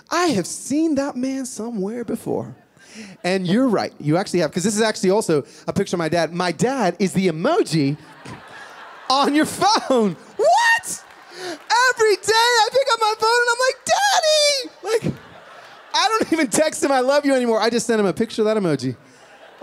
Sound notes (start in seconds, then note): 7.9 laughter